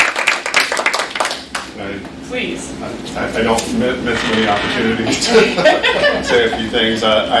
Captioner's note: clapping